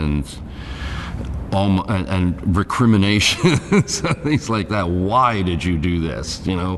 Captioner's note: laughs